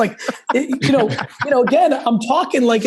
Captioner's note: laugh